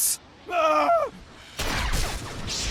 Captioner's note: Sith Apprentice screams